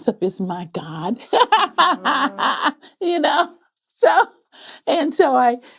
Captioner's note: laughing